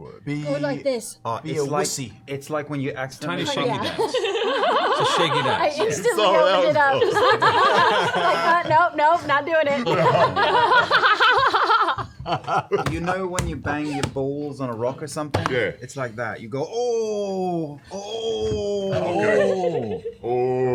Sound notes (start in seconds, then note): 4.3 laughter; 13.6 groans